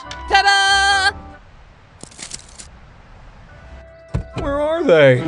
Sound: crunching from tumble weed

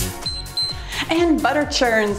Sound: timer beeps

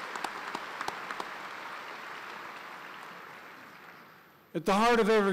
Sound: applause

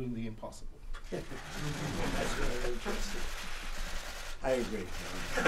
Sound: laughter

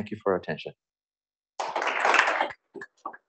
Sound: applause

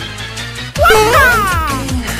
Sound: mario sound

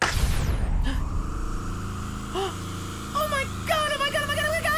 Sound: gasping

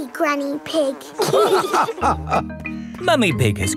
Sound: all laughing

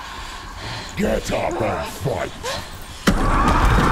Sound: growl; scream

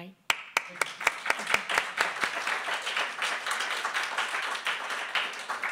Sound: clapping

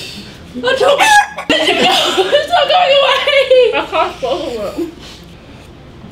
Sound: chicken Sounds

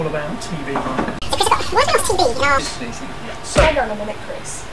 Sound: the guy's voice is sped up

